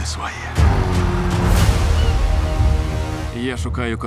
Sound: gulls calling

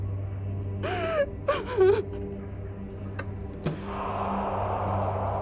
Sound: muffled crying

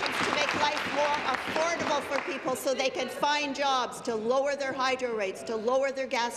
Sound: applause

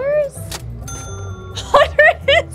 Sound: cash register dings; laughing

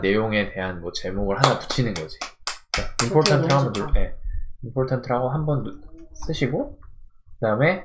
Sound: clap, Clap, Clap ~~!!!

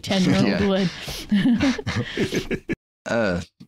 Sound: laughter

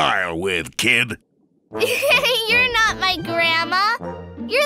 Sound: giggles

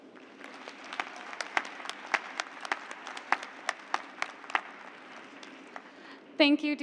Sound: applause

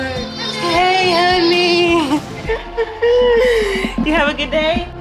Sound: laughs

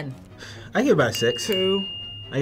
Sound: bell dinging

